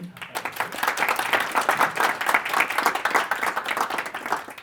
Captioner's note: audience applauds